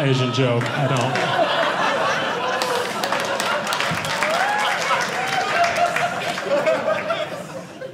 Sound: audience laughing

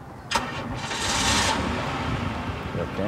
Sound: car starting

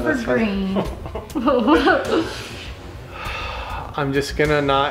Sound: laughing

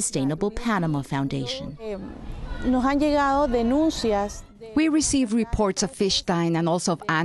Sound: through translator

